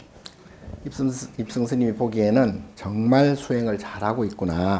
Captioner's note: speaking Korean